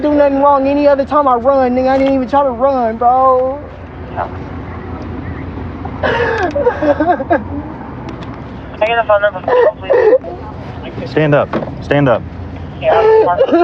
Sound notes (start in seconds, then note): 6.4 cryryining